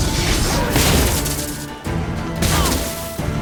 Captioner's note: electricity crackles